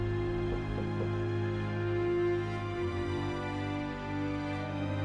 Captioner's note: knocking on door